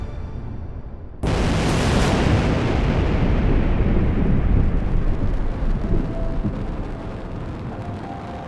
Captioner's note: asteroid crash